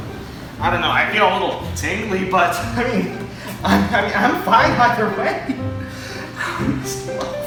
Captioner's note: stammering